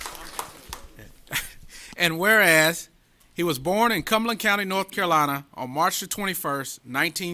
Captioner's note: applause